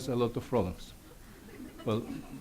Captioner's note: audience laughs